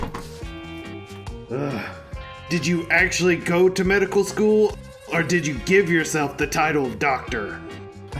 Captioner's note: groan